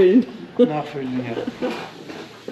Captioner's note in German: Lachen